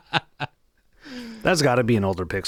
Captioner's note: laughing